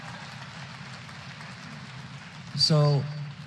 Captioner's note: applause